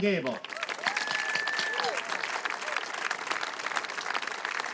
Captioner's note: crowd applauds and cheers